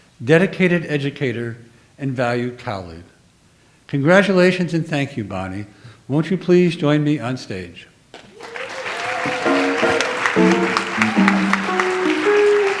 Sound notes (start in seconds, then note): 8.2 audience applauds; 9.4 light jazz music